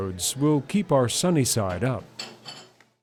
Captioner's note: voiceover